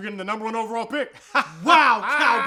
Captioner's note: laughing